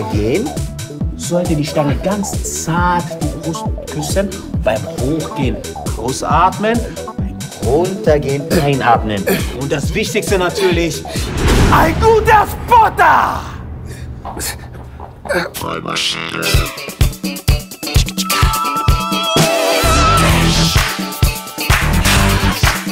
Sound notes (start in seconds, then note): 9.3 gasps; 11.2 shouts